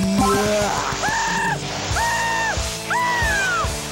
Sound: screaming

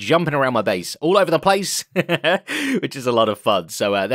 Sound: laughs

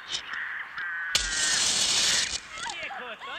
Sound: match strikes

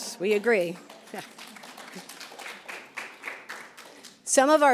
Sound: applauds

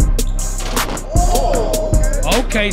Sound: crowd cheering

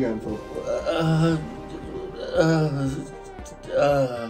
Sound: father groaning

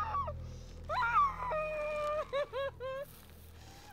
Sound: screaming

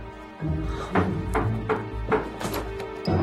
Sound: knocking on door; ominous music

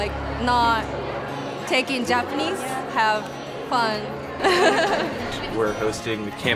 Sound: laughing

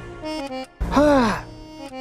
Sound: exhaling

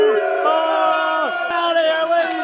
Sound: cheering

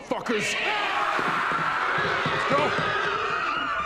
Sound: workers yelling loudly

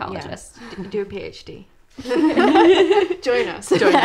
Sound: laughs

